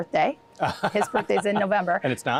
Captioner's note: laughing